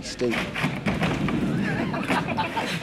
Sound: laughing

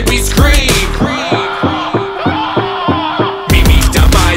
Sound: screams

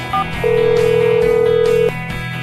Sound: rings

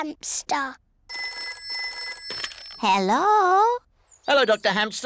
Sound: phone rings

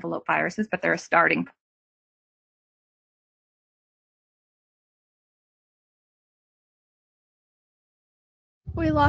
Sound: silence

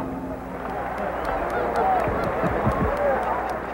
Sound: applause

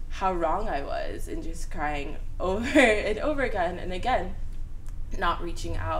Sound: laughs

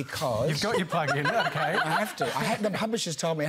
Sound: laughter

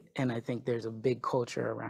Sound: none

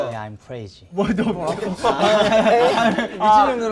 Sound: laughs

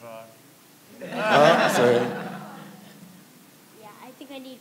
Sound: laughing

